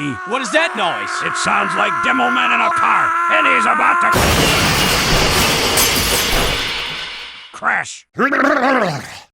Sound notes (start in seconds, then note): 0.0 screaming fades in; 4.1 crash lands